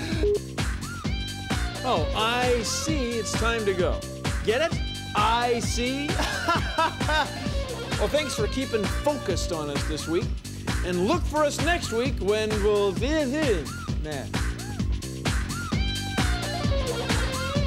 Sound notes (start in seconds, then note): 6.0 laughs; 13.8 mumbles